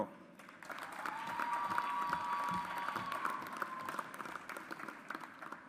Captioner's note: audience applauds